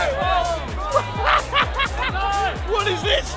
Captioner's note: laughs